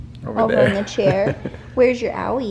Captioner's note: laughs